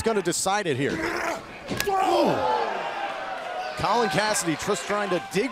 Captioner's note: crowd cheering